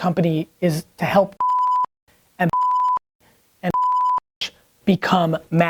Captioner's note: beep